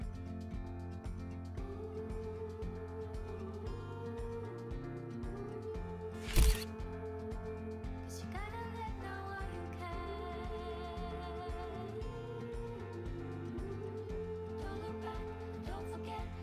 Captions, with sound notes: Ooh (camera shutter clicks) You gotta let know all you can Ooh Don't look back, don't forget